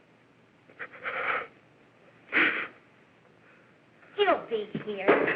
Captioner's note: breathing nervously